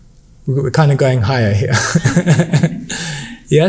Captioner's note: laughs